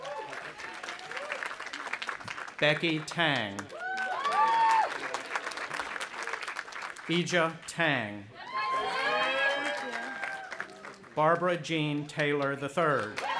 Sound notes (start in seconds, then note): 0.0 audience applauding; 3.7 audience applauding and cheering; 8.4 audience applauding and cheering